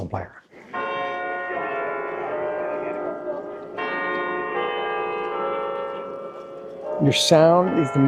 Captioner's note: bells Ringing